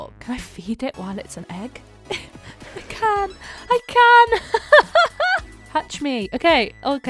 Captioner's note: laughing